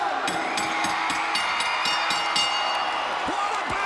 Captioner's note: bell ringing